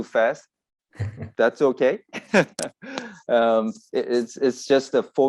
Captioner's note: laughs